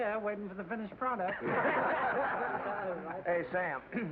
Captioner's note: laughter